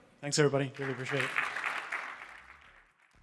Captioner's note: applause